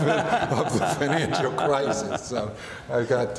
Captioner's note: laughing